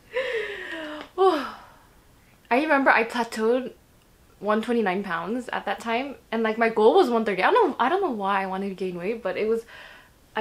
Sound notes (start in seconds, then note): 0.1 sighs; 1.2 laughs